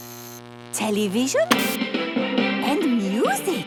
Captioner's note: light bulb buzzing; TV static, show music